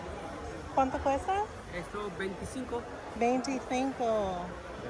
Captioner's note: speaking Spanish